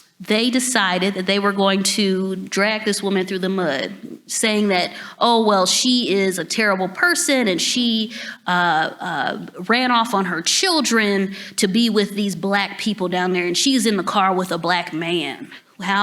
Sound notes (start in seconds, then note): none